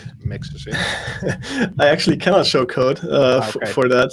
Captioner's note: laughs